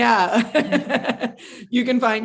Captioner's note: laughs